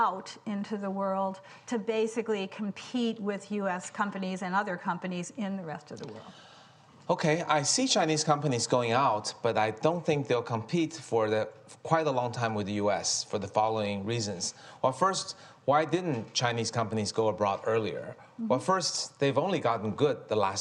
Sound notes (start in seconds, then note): none